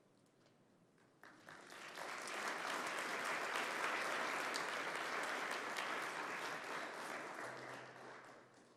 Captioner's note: applause